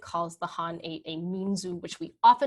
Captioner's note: speaking in a foreign language